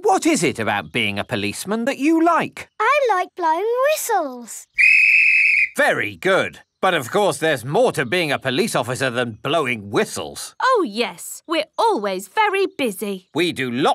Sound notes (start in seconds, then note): 4.7 blows whistle